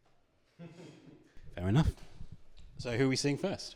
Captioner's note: laughter